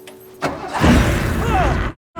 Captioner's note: engine turning over; Riley yelling